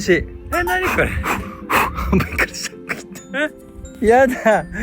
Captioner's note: laughs